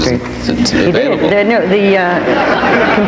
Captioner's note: audience laughs